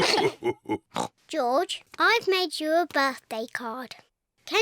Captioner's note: oinks; all laugh